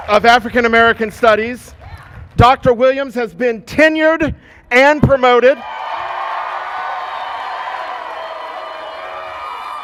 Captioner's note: cheers and applause